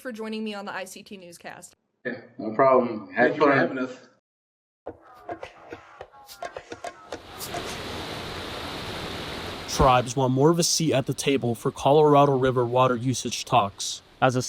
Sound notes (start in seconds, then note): 4.9 light percussion music; 7.1 water humming